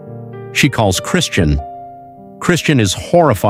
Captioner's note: audio clip: Slurred "Why did you buy me those books?"